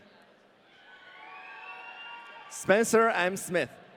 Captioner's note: audience cheering